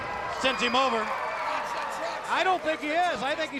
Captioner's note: crowd cheering